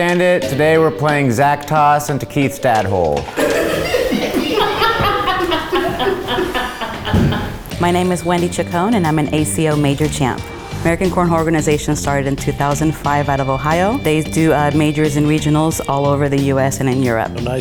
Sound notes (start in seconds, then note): 3.3 crew laughs